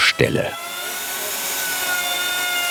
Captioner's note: machine noises